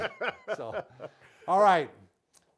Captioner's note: laughing